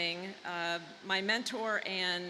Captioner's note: none